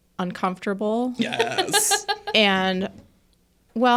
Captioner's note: participant laughing